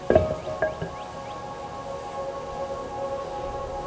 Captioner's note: clunking